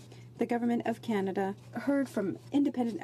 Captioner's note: speaking French